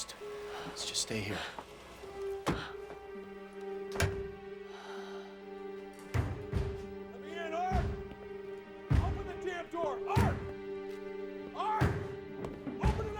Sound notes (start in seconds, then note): 5.9 Chuck knocking